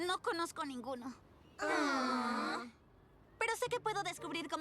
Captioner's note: groans